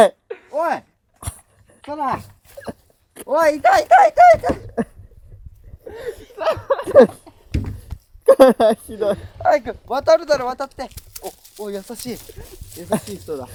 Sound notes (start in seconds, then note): 7.8 laughs